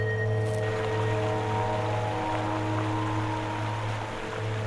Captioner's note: water flowing